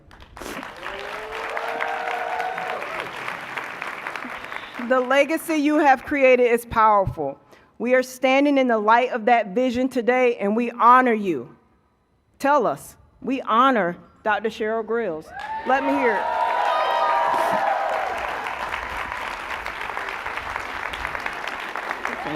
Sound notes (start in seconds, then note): 6.1 cheers and applause